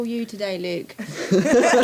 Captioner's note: laughter